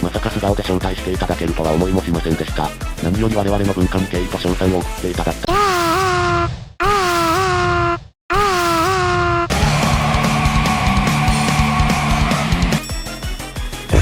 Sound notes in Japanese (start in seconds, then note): 5.5 うめき声; 6.8 叫び声